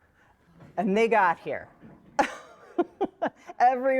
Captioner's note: laughs